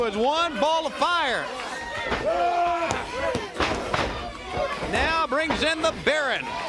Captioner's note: crowd chatter